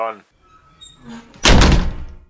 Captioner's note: slam